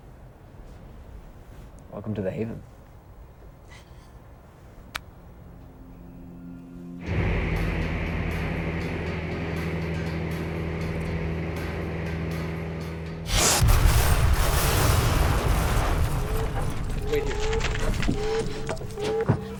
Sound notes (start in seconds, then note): 5.5 suspenseful music; 6.8 motor whirring; 13.2 explosion booming; 15.3 alarm blaring